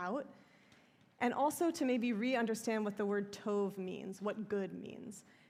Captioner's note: hebrew